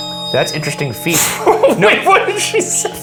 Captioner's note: laughing